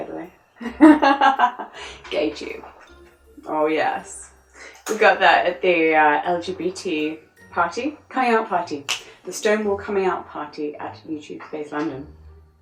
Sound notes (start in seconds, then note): 0.6 laughs; 8.8 snaps fingers